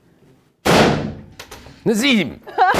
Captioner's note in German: Schuss